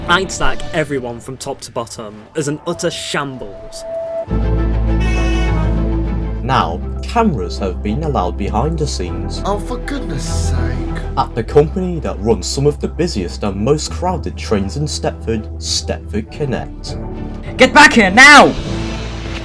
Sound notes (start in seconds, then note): 4.8 honk